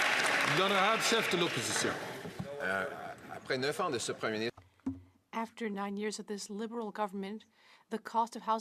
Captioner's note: some Applause